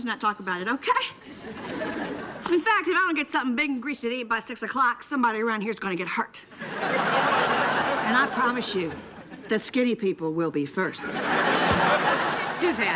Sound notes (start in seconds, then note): 1.2 audience laughing; 6.6 audience laughing